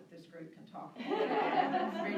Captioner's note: laughter